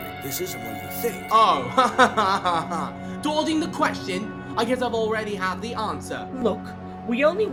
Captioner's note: sarcastic laugh